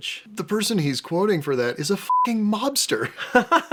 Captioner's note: beeping